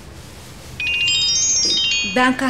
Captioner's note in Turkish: Telefon çalıyor